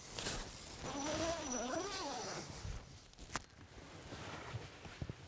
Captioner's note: tent zipping